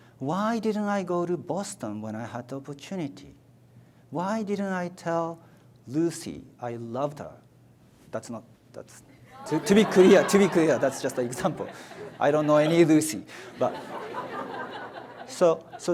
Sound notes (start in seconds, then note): 9.3 audience laughs